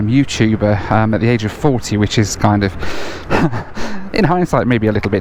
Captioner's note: laughs